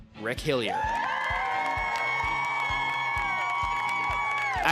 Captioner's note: cheering